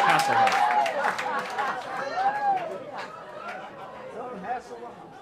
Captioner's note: cheers